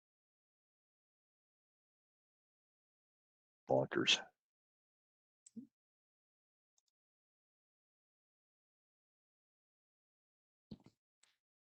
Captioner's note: silence